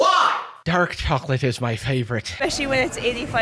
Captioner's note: Irish accent